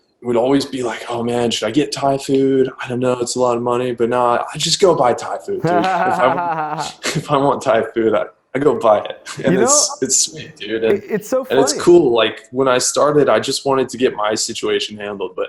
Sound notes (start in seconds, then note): 5.6 laughs